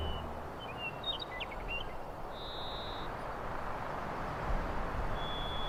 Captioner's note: distant birds chirping